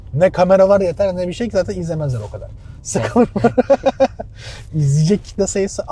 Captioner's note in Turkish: kahkaha